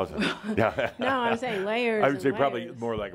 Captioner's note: Adamus chuckles